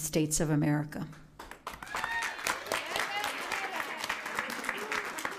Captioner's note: cheering and applauding